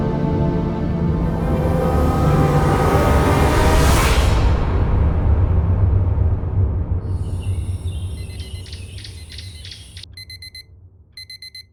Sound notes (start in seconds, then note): 2.3 tense, eerie music; 4.1 dramatic music; 8.5 alarm beeping